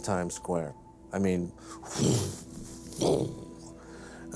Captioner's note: blows